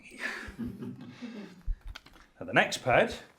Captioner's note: students chuckling